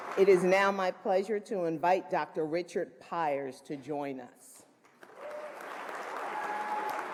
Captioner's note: applause